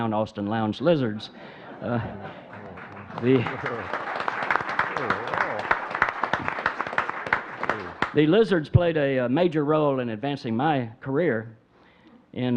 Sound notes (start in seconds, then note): 1.3 audience chuckling; 3.5 audience clapping